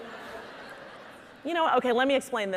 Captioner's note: audience laughing